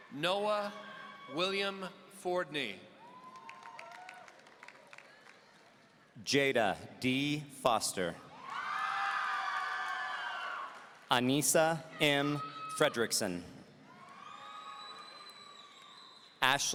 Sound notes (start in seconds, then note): 3.0 audience applauding; 8.4 audience cheering; 13.9 audience cheering